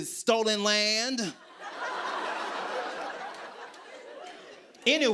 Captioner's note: laughter